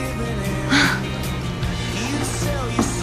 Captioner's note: sighs